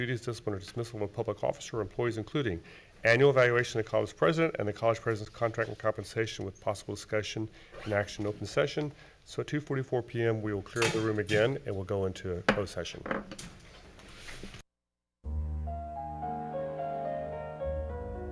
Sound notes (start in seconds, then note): 12.9 gavel bangs; 15.2 gentle music